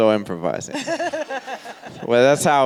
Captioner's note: and audience laughs